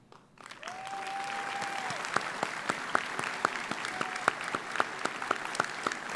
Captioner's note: audience applauds; audience cheers